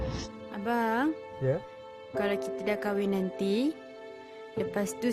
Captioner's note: speaking in foreign language